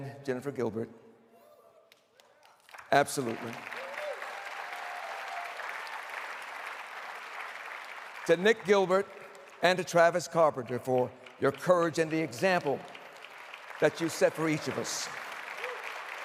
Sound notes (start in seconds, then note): 5.0 applause